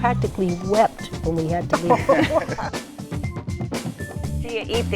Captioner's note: laughter